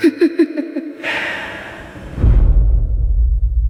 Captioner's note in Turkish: kahkaha